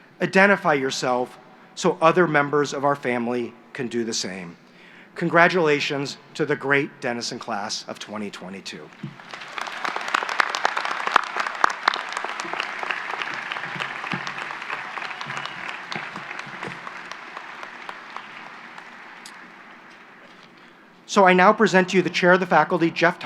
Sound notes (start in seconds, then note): 8.9 applause